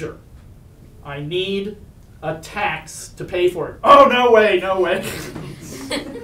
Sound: laughs; audience laughs

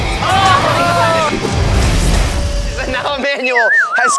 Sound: boys shout

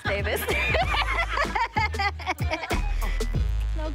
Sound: laughing

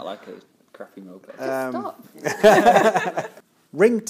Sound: laughter

